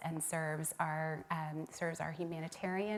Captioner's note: none